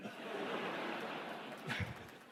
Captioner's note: laughter